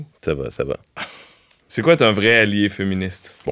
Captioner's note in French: petit rire